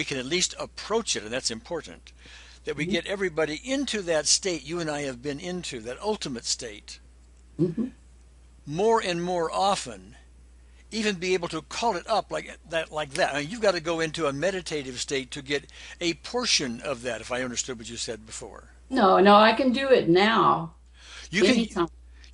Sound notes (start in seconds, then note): 13.1 snaps